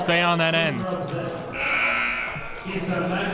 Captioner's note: buzzer blares